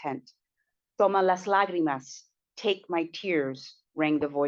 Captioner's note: speaking spanish